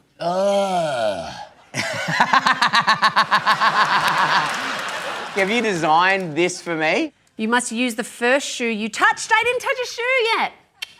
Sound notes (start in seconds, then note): 1.7 laughs